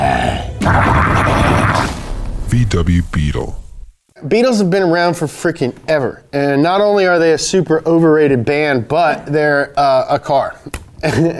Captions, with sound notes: (maniacal screaming) - [Voiceover] VW Beetle. Beetles have been around for fricking ever. And not only are they a super-overrated band, they're a car.